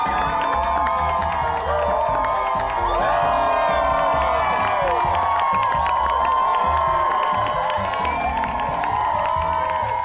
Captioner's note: crowd cheers, claps